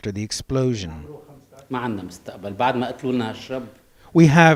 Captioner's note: non-english speech